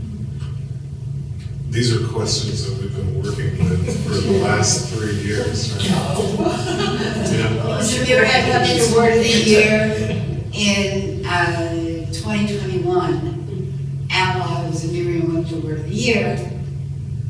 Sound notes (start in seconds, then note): 6.7 laughter